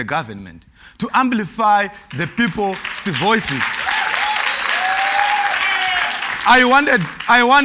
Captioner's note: cheers and Applause